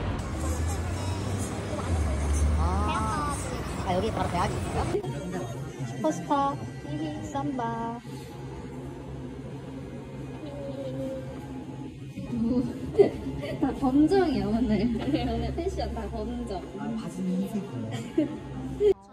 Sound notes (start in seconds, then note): 12.6 laughing